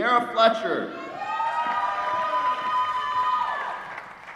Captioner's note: applause